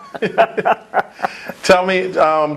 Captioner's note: laugh